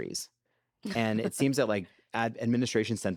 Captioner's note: laughs